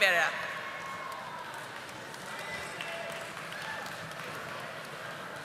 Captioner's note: audience applauding